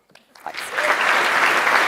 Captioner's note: applause